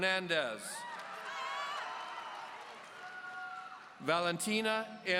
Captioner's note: audience cheering